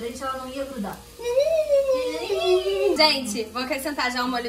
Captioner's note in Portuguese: Som de deboche